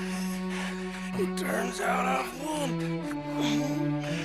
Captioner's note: hardly breathing